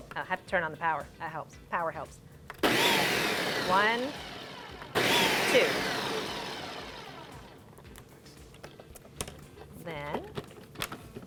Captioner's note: blending Noise